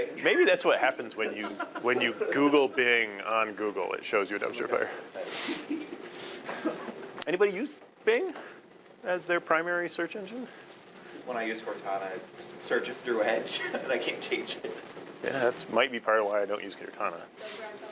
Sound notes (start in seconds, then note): 13.4 laughing